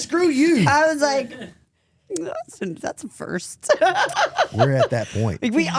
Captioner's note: laughs